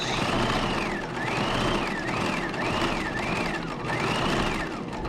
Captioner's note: sewing machine whirring